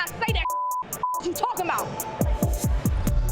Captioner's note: beep